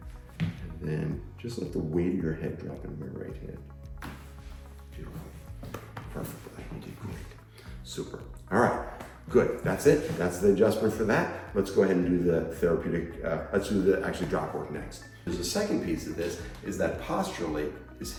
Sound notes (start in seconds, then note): 5.6 body snapping